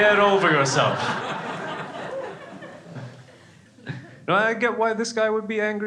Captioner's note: crowd laughing